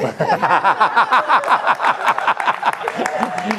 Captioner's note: laughter & applause